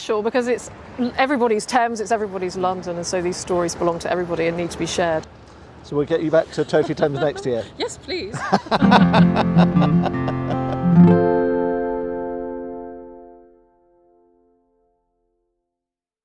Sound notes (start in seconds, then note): 6.2 laughs